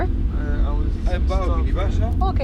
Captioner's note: speaking foreign language